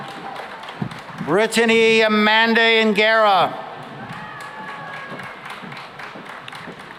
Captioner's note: applause